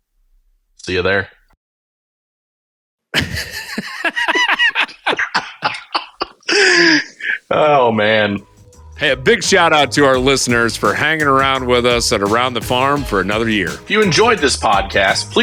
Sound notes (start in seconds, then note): 3.1 laughing; 8.5 upbeat music